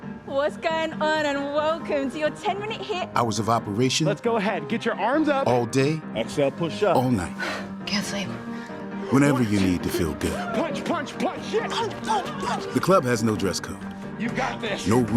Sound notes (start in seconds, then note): 7.3 exhales